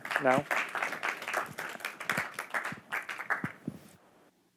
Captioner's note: applause